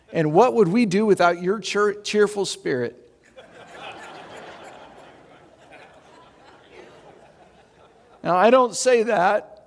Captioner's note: audience laughing